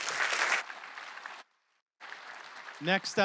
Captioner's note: applause